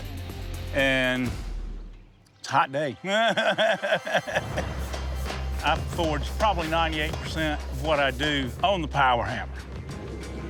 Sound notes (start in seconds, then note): 3.0 laughs